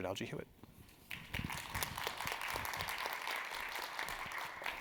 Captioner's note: audience clapping